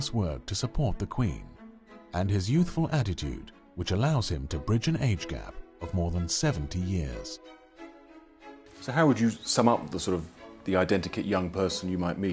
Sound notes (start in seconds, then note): 8.0 voiceover